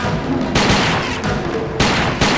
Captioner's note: gun shots